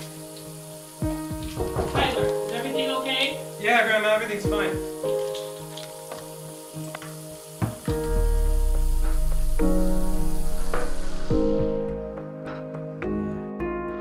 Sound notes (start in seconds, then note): 1.2 knocking on door; 6.2 bottles clattering; 8.1 somber music